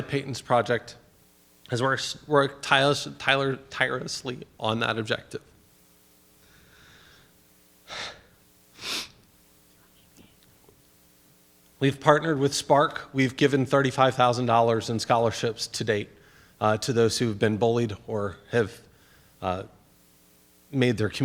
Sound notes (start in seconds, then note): 8.7 sighs, sniffs